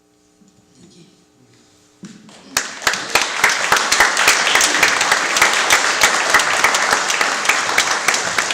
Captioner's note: audience claps